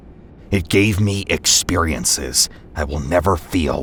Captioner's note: none